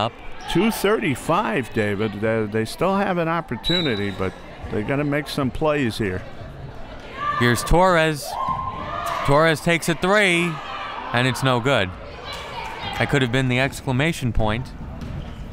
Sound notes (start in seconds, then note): 3.6 whistle